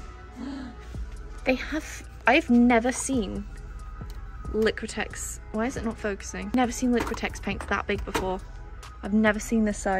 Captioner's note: gasp